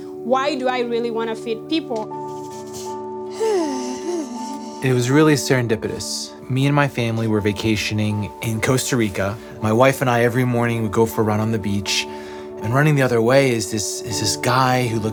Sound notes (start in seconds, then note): 3.3 sighs